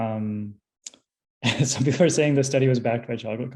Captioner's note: laughs